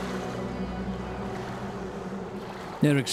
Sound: boat motor rumbling

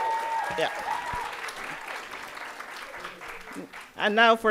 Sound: audience applauding

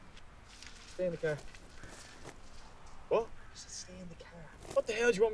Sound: none

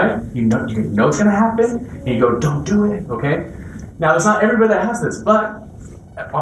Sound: none

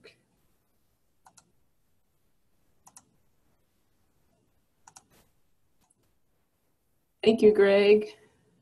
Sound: mouse clicking

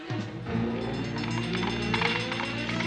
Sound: bell ringing

